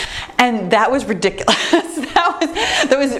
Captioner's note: laughs